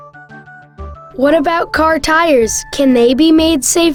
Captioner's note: voiceover